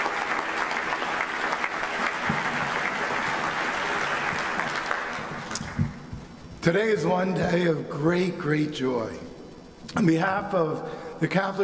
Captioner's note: applause